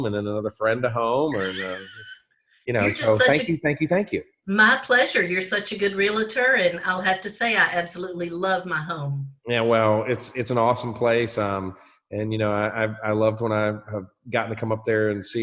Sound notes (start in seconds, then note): 1.0 laughs